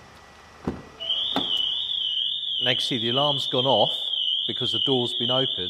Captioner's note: alarm sounds